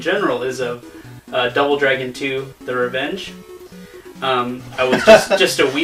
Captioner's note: laughs